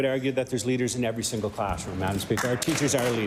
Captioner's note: applause